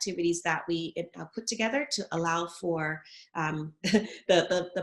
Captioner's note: chuckles